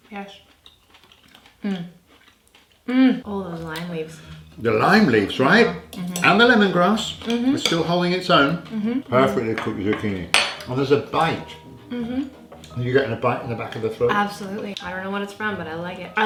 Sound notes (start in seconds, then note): 1.8 moaning; 11.8 agreeing